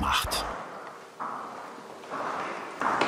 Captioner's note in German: Klappernde Schritte